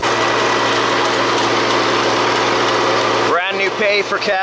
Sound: machine roaring

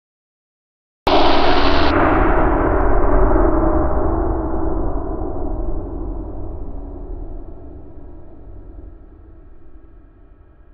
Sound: sound of surge

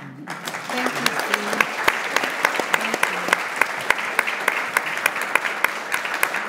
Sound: audience applauds

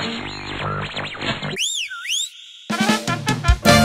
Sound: whistle

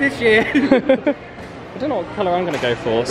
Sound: laughing

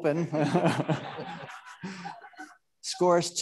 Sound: audience laughing

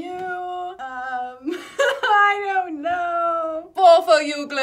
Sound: laughs

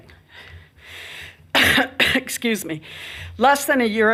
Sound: coughs

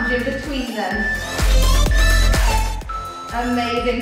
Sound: beeping

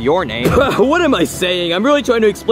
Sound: sputters

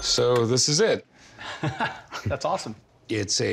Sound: man laughs

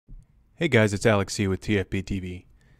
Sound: voiceover

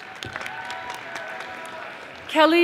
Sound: audience applauding

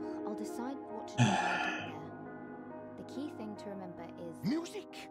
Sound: sighs

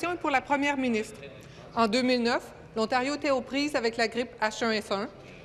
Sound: speaking in French

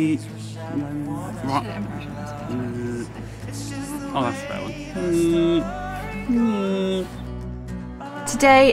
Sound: imitating mosquito

